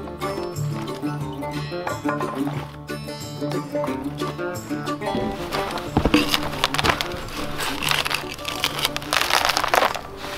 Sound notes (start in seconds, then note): 6.8 bark crackling